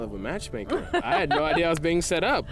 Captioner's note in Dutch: Tracey lacht